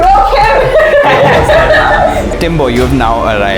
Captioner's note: laughter